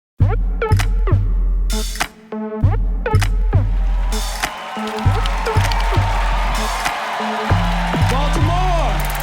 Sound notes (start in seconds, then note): 1.2 club music playing; 3.6 audience cheering and applauding